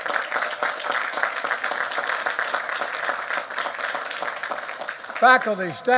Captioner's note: applause